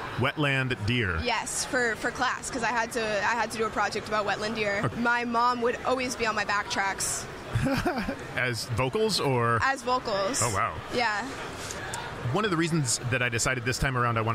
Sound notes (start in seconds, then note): 7.5 chuckling